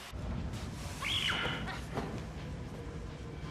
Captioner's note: shrieks